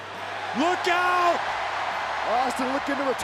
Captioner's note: crowd cheering